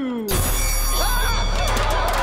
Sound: screaming

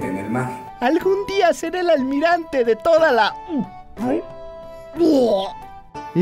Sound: vomit intesifies

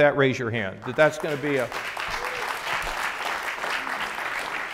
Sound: audience applauds

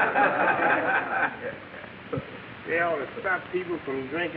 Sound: audience laughing

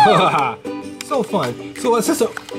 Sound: laughs

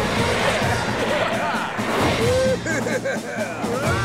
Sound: chuckles; laughing

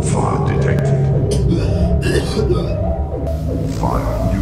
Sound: coughing

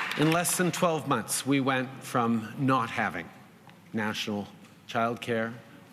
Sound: applause

